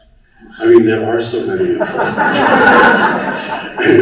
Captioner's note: laughter